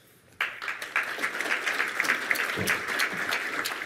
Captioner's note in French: Applaudissements